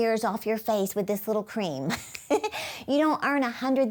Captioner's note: chuckles